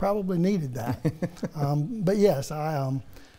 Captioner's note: laughs